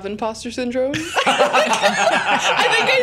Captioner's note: laughter